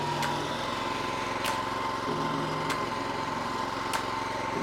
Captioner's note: lawnmower running sound